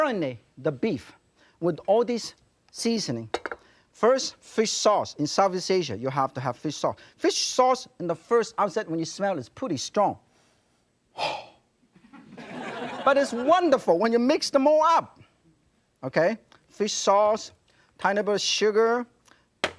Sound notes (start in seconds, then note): 11.2 exhales loudly; 12.0 audience laughs